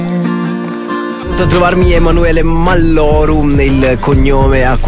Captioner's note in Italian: radio